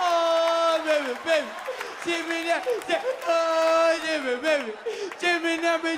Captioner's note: audience laughs and applauds; continues imitating crying like a trap song